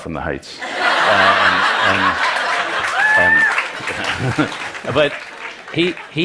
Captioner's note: Laughter; 笑聲